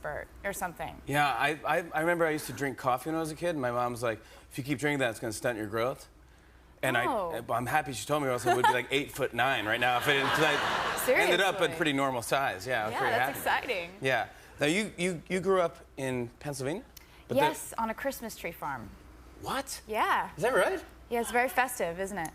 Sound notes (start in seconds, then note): 9.7 laughter